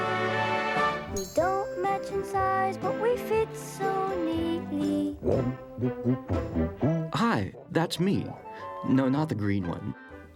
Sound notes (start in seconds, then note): 5.2 humming